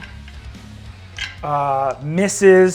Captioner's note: die rolls